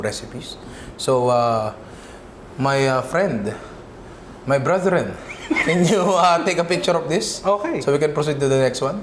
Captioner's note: laughs